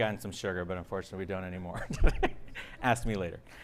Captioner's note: chuckles